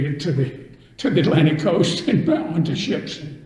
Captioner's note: laughs